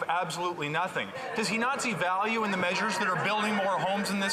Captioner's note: some Applause